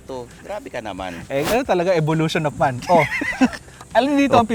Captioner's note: laughs